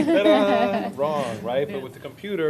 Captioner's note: laughter